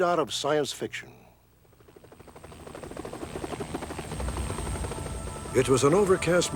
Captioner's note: rotating chopper blades